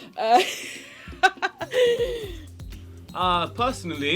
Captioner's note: laughs